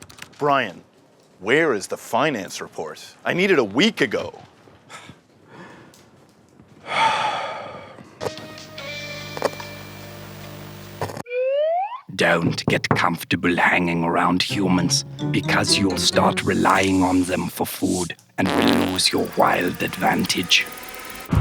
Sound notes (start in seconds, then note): 6.1 Brian sighs; 21.2 serious music